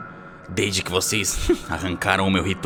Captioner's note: laughs